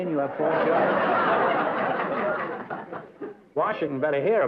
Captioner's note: laughter